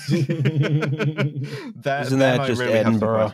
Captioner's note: laughs